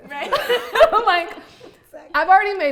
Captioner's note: all laughing